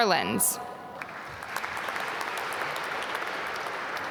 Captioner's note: applause